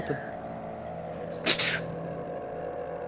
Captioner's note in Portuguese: Chorando